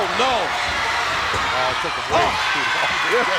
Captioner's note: laugh